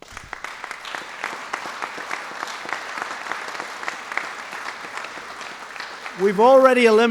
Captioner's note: applause